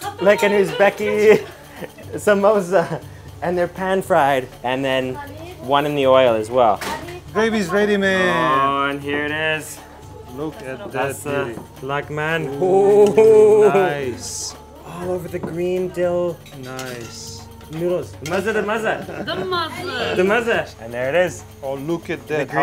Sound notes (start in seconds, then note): 0.0 speaking foreign language; 12.8 excited sighing; 18.4 speaking foreign language